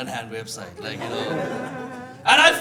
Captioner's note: audience laughing